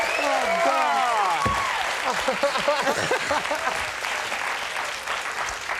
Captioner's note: audience clapping